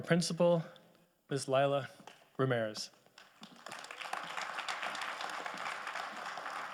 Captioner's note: audience applauding